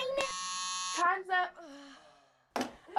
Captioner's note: buzzer noise